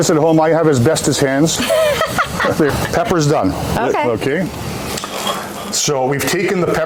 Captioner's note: laughter